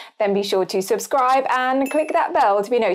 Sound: bell dings

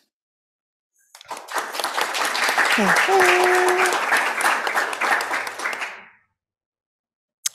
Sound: applause

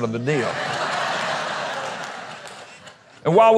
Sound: audience laughter

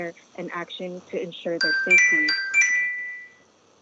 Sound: chime

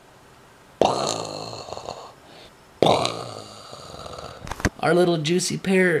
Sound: vocally imitates explosion booming

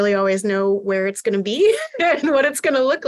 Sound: laughter

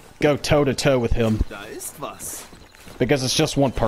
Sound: german

